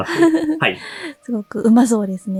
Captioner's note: chuckles